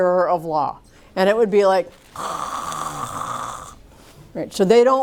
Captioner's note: snores